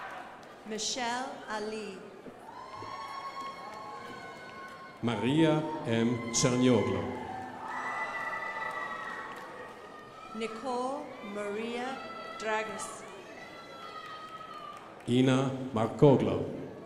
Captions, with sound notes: Michelle Ali. (crowd applauding) Maria M. Chanyolo. (crowd applauding) Nicole Maria Dragas. (crowd applauding) Ina Macgoglo.